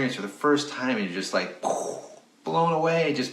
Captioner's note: makes explosion sound